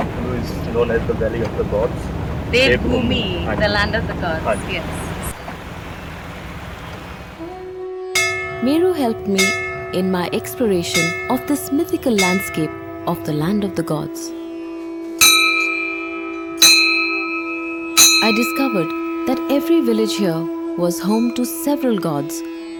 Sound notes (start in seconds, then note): 5.5 bell jingles; 5.5 river flowing; 15.2 bell jingles; 22.6 spiritual music